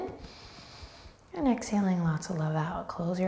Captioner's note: breathing deeply